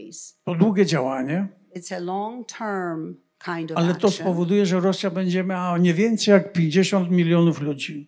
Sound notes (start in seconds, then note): 0.1 foreign language; 5.5 foreign language